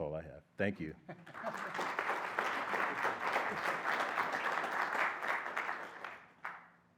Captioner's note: applause